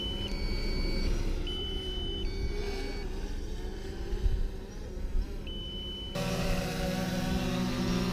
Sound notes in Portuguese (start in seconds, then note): 1.0 som do drone